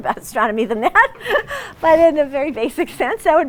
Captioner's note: laughs